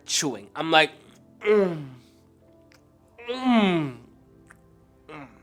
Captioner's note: chewing